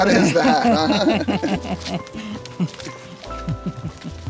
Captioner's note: both laugh; cheerful music